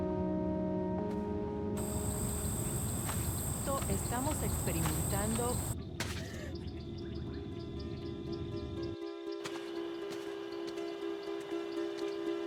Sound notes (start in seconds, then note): 3.0 woman speaking in Spanish; 6.6 crickets chirping; 6.6 mellow music